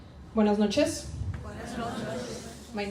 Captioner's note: speaks in foreign language